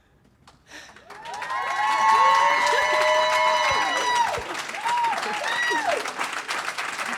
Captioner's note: applause; cheers